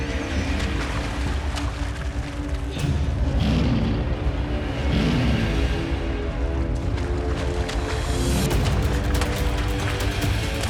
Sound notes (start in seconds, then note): 2.9 lion roaring; 7.7 thrilling music